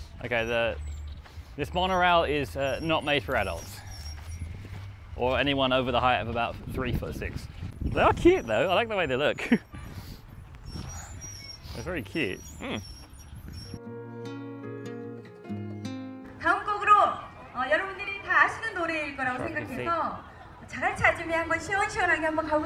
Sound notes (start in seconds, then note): 12.7 speaking in foreign language; 20.4 upbeat music